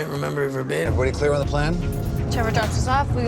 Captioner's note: voiceover